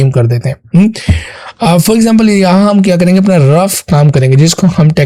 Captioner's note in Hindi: अचानक ज़ोर से सांस लेने की आवाज़